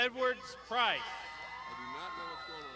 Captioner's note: crowd shouting